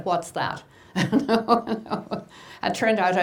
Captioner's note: laughing